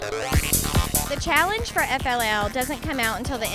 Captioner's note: voiceover